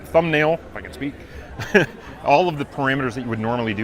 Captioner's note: laughs